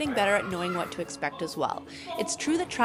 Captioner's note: shouting playfully